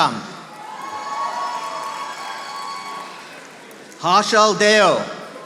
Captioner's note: audience applauding